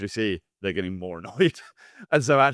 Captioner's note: laughs